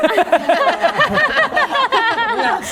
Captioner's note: laughter